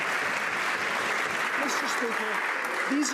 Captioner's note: some Applause